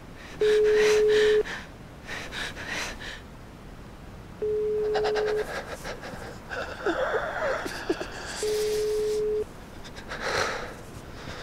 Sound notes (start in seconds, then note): 0.4 phone dialing; 5.8 man squeaking